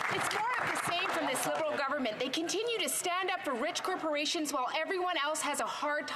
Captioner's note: some Applause